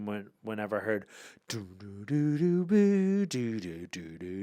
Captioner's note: Ian hums